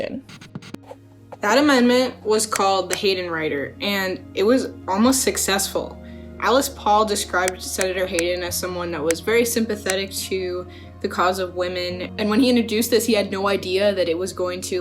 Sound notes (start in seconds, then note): 2.5 words click; 8.1 words click